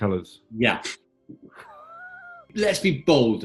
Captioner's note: sniggering